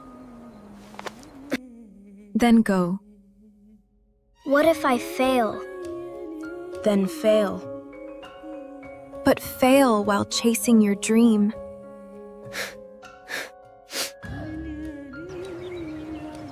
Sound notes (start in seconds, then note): 12.5 snorts; 12.5 gasps